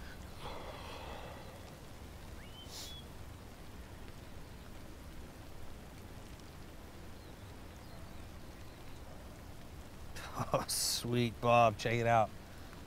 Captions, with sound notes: (chuckles) Sweet, Bob. Check it out.